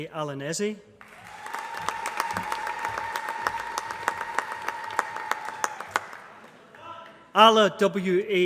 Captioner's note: applause